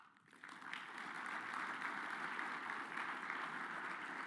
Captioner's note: audience applauds